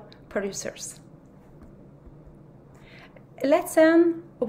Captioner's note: white noise